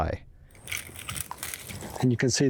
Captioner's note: leaves crackling